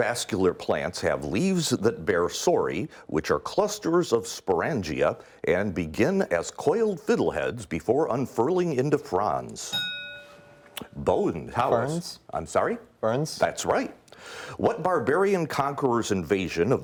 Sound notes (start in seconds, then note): 9.7 ding